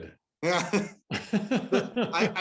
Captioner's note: laughter